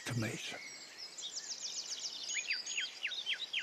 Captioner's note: birds sing and chirp